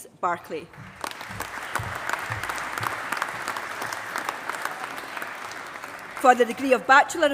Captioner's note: applause